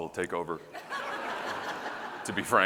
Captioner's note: audience laughing